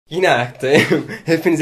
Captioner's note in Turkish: Gülme